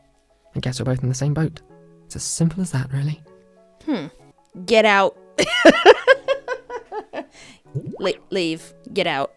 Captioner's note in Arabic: ضحك